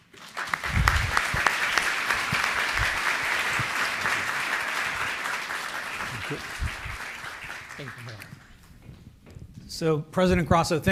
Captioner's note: applause